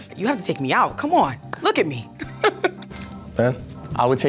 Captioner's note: chuckles